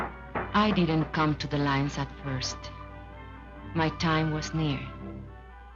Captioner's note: none